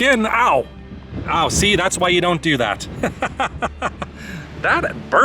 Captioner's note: laughter